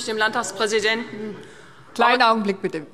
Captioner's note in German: Zuruf